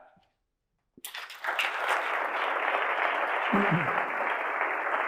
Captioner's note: audience applauding